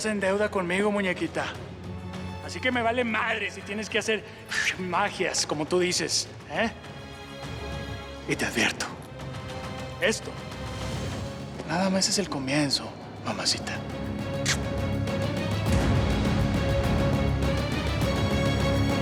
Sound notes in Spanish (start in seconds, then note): 6.9 silbido; 14.4 suena un beso